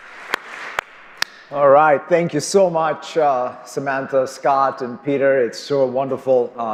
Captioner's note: cheers and applause